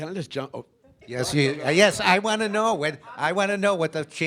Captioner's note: audience members chattering